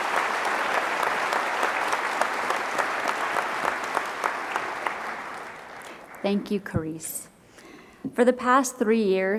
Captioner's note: applause